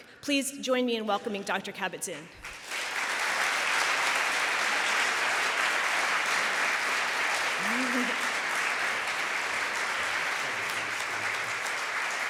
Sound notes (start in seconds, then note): 2.4 applause